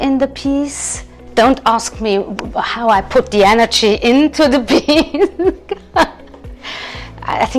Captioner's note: laughing